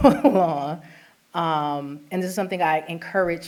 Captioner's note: laughter